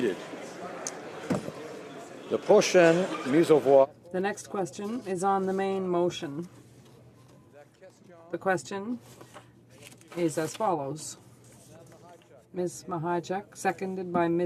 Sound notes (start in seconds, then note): 5.8 speaking French